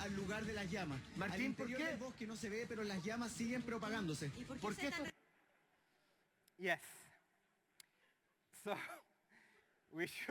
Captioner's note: non-english Language